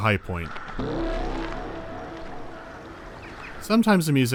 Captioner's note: harsh electronic pass